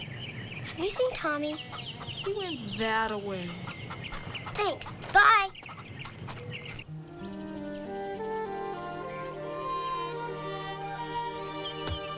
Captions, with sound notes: Have you seen Tommy? - He went thataway. (chickens clucking) - Thanks. Bye! (soft calm music)